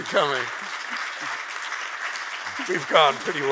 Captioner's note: audience applauds